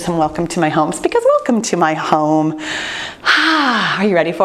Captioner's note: exhales deeply